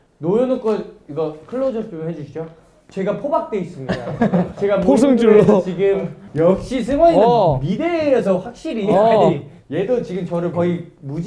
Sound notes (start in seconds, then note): 3.8 haha